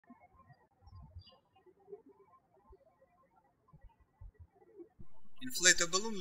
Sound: birds chirping

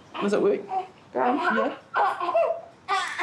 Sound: cries

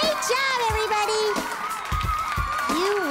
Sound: cheers & Applause

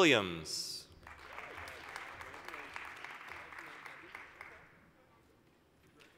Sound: applause

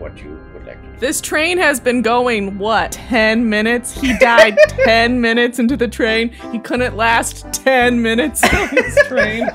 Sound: laughter

